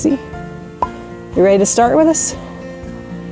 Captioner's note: popping sound